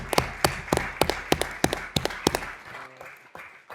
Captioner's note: applause